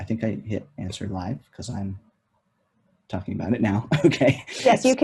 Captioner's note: laughs